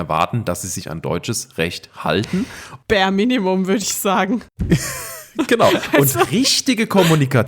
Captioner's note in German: gelächter